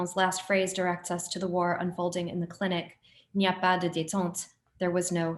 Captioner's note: speaks french